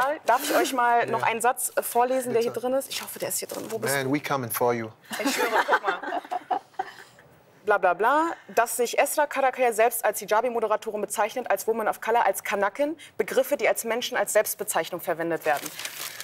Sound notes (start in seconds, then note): 5.1 laughter